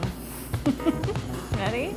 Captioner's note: laughs